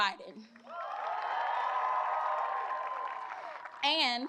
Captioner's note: applause